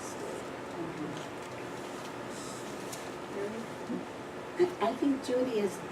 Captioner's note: none